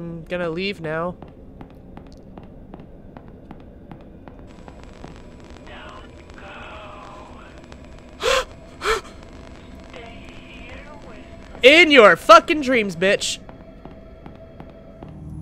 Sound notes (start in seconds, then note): 4.4 exhales